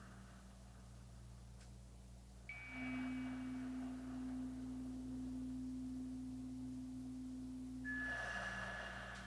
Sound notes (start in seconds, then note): 1.9 chimes ringing continues; 1.9 slow breathing continues